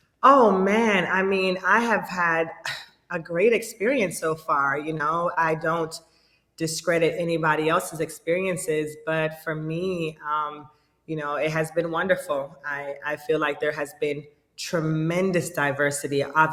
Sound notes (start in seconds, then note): none